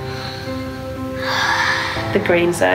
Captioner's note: sighs